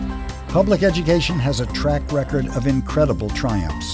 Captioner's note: voiceover